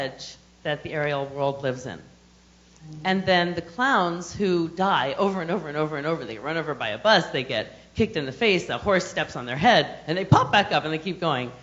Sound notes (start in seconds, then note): none